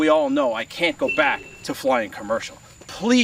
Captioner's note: bell dings